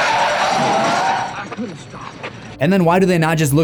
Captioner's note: wheels screeching